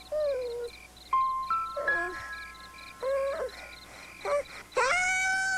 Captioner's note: moaning